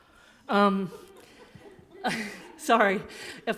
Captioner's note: awkward laughter